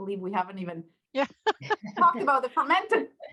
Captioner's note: laughing